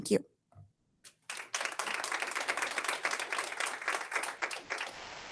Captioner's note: audience applauds